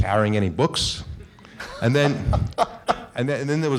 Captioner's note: laughing